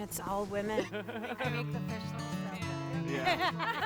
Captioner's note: laughing